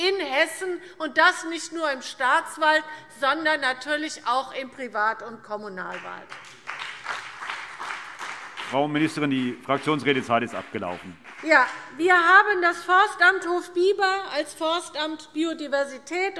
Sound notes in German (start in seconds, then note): 6.2 Beifall CDU und BÜNDNIS 90/DIE GRÜNEN